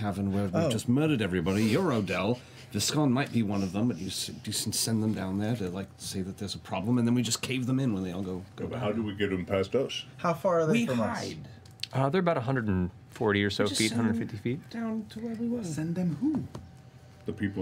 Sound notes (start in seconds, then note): none